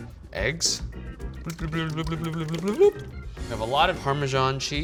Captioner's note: verbal blooping noises